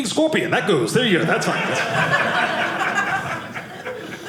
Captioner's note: audience laughing